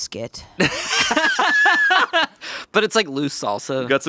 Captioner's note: laughing